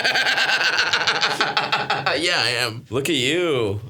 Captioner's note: Stavros laughs